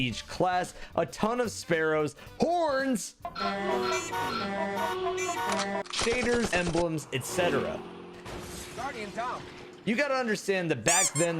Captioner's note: sound of horns